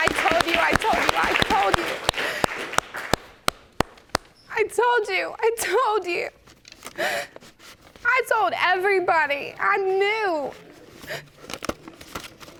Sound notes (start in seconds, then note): 5.5 sobbing